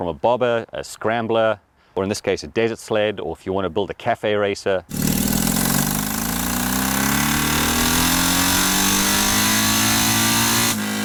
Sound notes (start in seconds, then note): 4.9 engine sounds